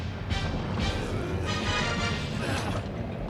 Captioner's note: straining